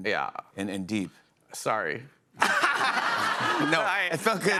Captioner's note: laughter